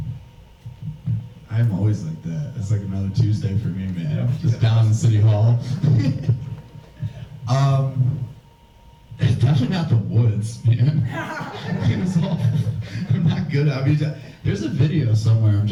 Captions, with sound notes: - I've always liked that. It's like another Tuesday for me, man, just down in City Hall. (laughs) Definitely not the woods, man. (audience laughs) It was all... I'm not good, I mean, there's a video somewhere.